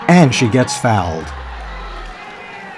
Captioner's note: crowd cheering